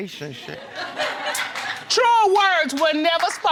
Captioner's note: audience cheering and clapping